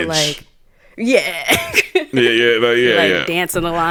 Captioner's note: chuckles